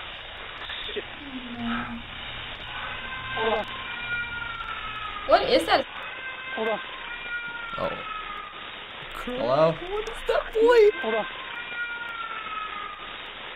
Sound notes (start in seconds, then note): 0.0 wailing in background; 12.1 wailing in background